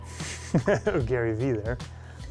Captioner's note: chuckles